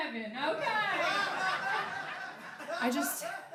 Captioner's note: laughing